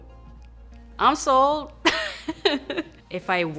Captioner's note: she laughs